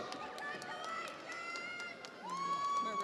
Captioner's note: audience applauds; audience cheers